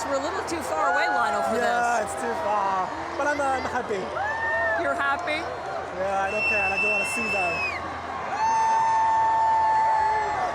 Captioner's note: cheering